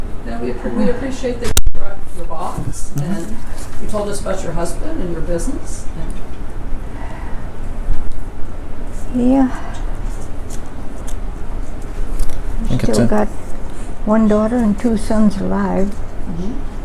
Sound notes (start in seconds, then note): 7.4 with a sigh